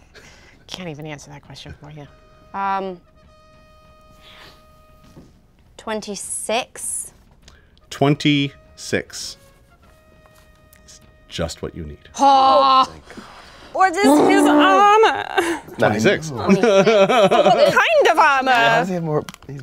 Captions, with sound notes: Can't even answer that question for you. 26. - 26. (triumphant music) That's just what you need. - Ha! - Thank God. - What is his armor? - 26. (laughs) - What kind of armor? - Why does he have more,